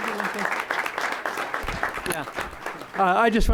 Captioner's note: applause